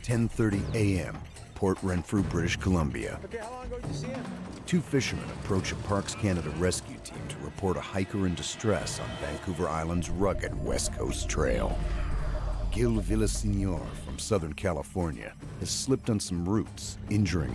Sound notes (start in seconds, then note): 9.3 voiceover